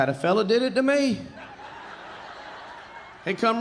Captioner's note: audience laughing